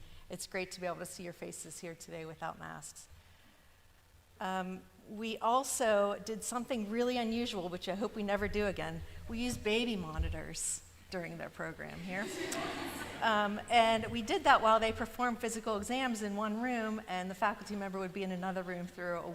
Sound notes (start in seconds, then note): 12.2 laughter